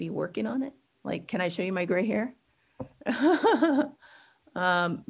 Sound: chuckles

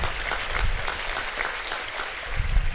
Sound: applause

